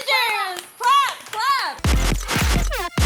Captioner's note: managers clapping